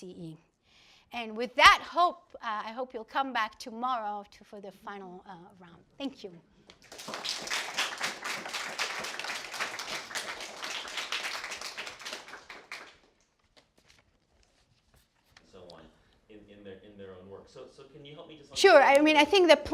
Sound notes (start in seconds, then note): 6.7 applause